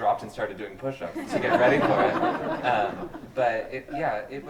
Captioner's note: group laughs